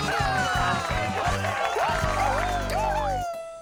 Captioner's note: applause continues